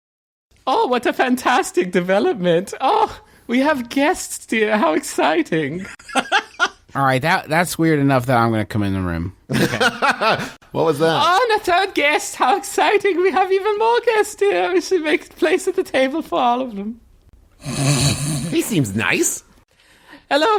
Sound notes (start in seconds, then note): 0.1 in a funny german accent; 17.6 snort